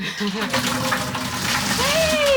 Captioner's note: water splashing